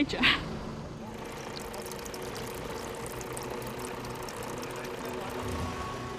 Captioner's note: chuckling; engine idling